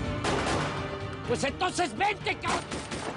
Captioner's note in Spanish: Disparos